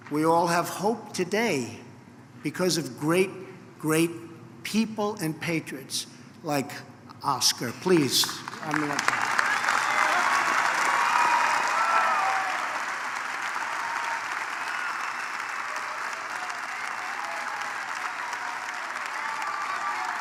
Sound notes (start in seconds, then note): 6.8 applause; 9.5 applause